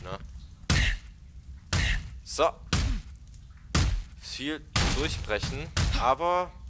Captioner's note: yet more punch noises